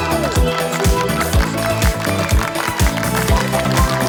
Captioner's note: upbeat music; clapping